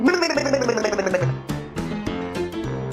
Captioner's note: blubbering; upbeat music continues